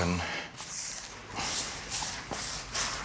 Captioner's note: wiping noises